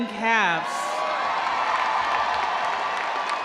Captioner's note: audience cheering; audience applauding